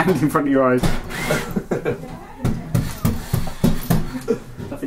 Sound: laughs

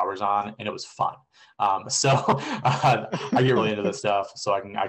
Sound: laughter

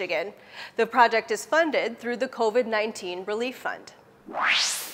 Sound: sound effect

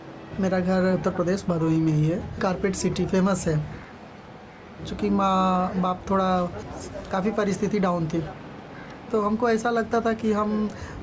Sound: non-english speech

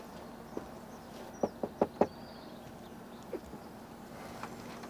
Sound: door knocking

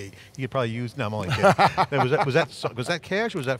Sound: laughs

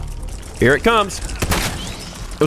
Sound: blam!

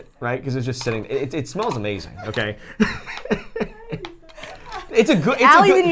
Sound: laughs

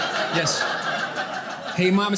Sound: audience laughing

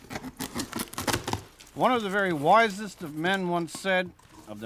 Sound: box opening

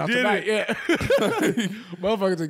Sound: laughing

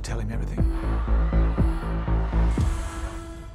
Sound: protestors clamoring

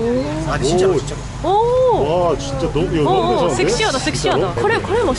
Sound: everyone laughs

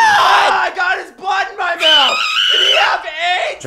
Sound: distant scream

